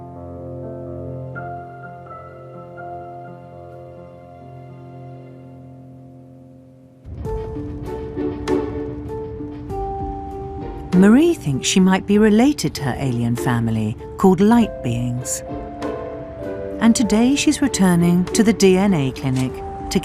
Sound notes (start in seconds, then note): 7.1 pleasant instrumental music; 11.2 voiceover